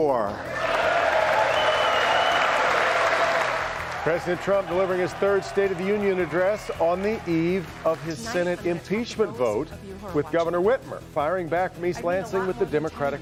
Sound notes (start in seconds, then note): 5.9 applause